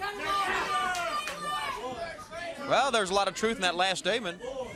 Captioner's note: crowd cheering